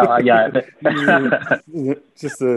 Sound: laughter

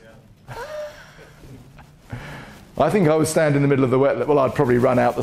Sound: laughs

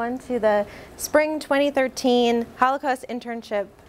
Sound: none

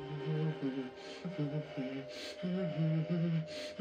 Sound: humming

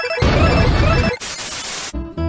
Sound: boom

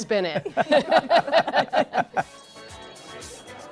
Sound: laughter

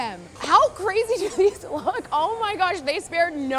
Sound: laughs

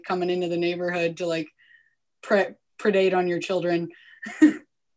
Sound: chuckles

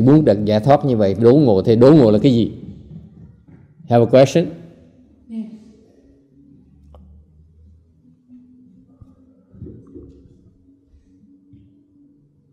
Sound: silence

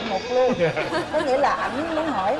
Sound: laughing

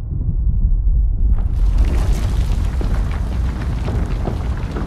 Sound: rumbling increasing

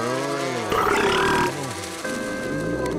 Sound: slurping, groaning; burping

